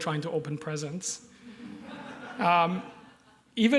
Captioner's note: laughter